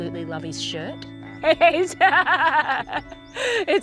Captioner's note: laughing